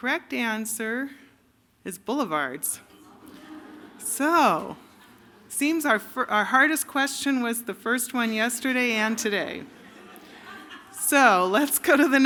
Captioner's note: laughter